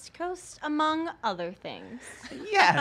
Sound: laughs

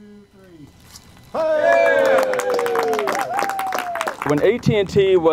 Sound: cheers & applause

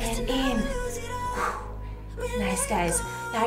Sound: exhales

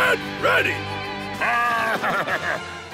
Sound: laughing

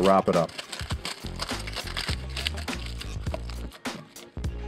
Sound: tinfoil crunching

